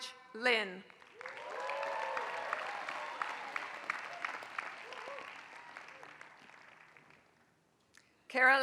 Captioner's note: applause